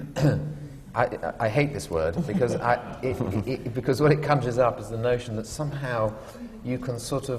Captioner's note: laughter